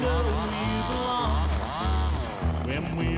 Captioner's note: saw buzzes